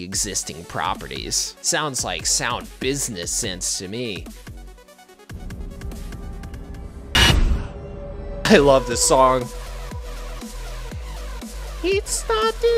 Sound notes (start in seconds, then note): 5.3 scary sound; 9.3 singing